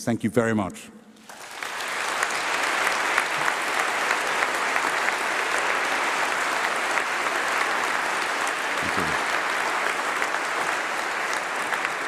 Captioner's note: applause